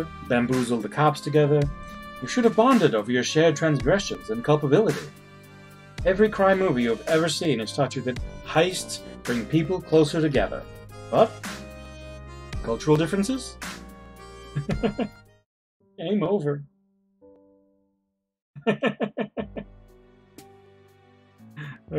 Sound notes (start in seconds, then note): 14.5 chuckles; 18.6 laughs